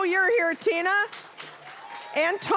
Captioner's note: cheering, applause